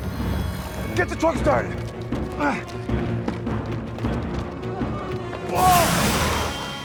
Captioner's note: dramatic music; Tector gasps